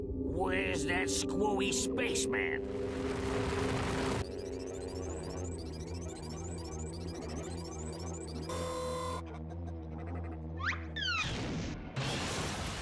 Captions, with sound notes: WHERE'S THAT SCREWY SPACEMAN? [electronic humming] [whirring]